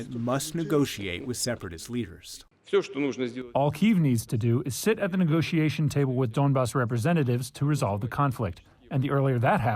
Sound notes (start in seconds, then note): 3.2 through translator